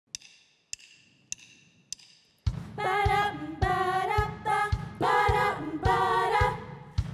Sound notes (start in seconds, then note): 0.1 drum sticks clicking